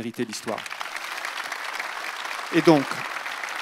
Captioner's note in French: Applaudissements